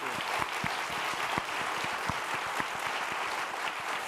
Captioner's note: applause